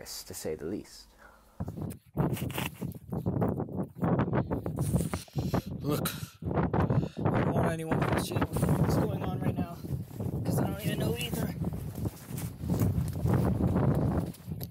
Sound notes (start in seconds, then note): 6.6 wind sounds